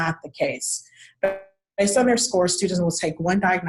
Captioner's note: audio warps